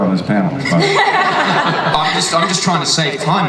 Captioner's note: audience and panelists laugh